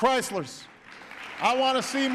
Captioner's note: applause